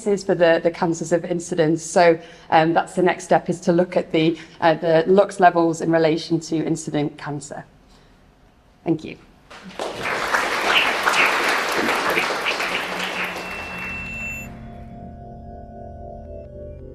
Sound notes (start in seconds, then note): 9.5 applause; 12.6 drone-like music